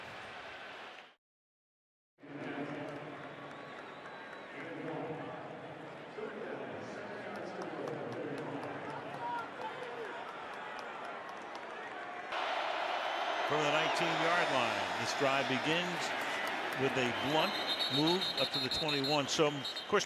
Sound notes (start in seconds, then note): 2.6 pa announcement